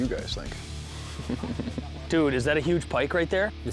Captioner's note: laughing